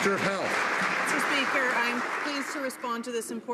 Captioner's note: some Applause